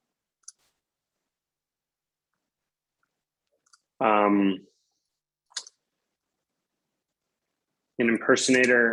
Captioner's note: typing